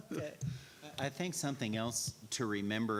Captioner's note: laughing